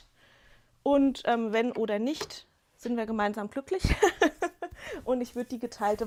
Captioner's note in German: gelächter